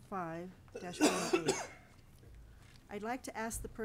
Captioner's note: speaker drowned out by coughing